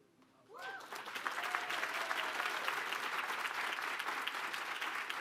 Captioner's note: applause